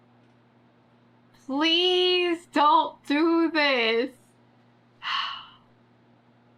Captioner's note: sighs